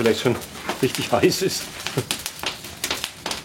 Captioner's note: laughter